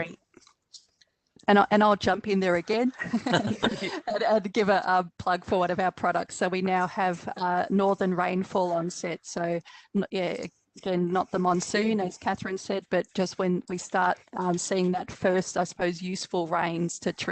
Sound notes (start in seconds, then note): 2.9 laughter